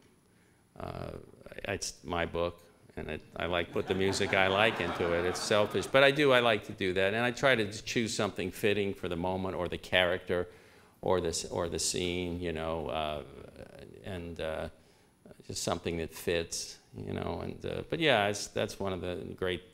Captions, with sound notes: It's my book [laughter], and I put the music I like into it. It's selfish. But I do, I like to do that, and I try to choose something fitting for the moment, or the character or the scene. Something that fits. But that's one of the great,